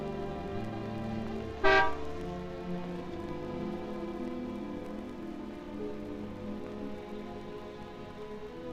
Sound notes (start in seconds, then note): 1.6 car horn honking